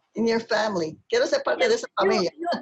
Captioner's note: speaking spanish